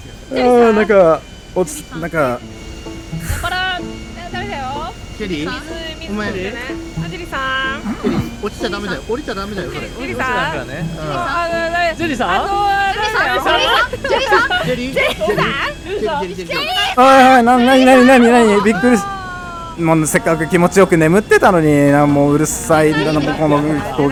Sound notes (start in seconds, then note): 0.2 yawn; 10.0 Continues to call for Jerry